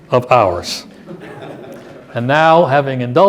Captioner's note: laughter